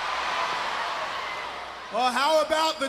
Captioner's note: crowd cheering